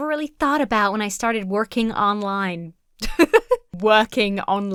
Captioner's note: laughs